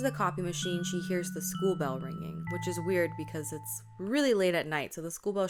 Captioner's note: school bell sound